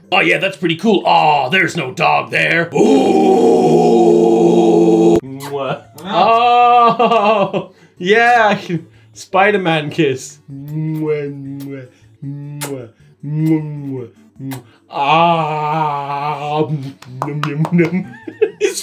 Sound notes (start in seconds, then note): 2.7 chorus of howls; 5.3 kiss sound; 5.9 laughing; 10.7 kissing sounds; 14.4 swallowing; 16.5 laughing